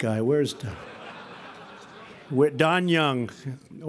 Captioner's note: laughter